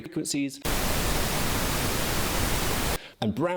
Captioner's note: static blaring